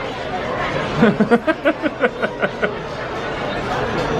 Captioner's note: laughs